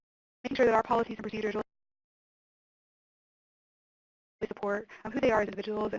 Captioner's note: audio cuts out